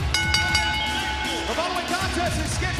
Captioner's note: bell ringing